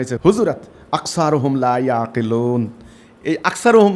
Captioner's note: Arabic